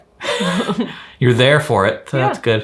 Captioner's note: chuckle